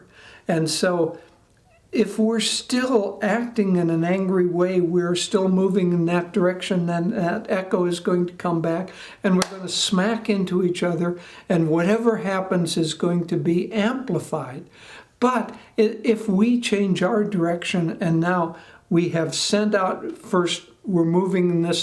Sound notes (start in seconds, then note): 9.4 one clap